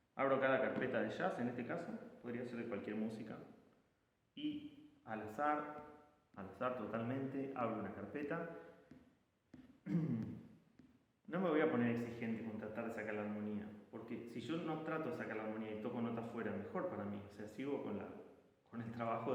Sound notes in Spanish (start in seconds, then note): 9.8 carraspeo